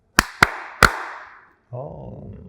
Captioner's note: clapping